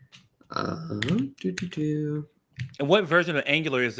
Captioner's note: humming